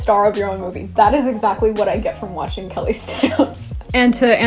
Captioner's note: laughs